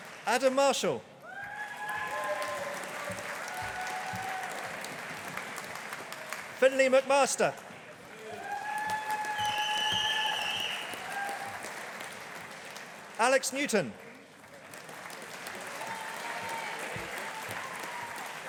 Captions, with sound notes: Adam Marshall. (AUDIENCE APPLAUDING) Finlay McMaster. (AUDIENCE APPLAUDING) Alex Newton. (AUDIENCE APPLAUDING)